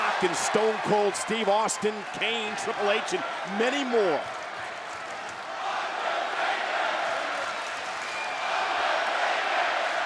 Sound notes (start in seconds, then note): 6.9 audience clapping